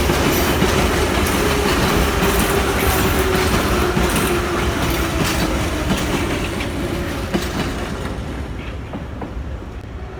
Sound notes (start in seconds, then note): 0.0 arrival of train at the station